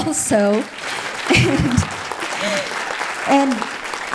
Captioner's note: audience applauding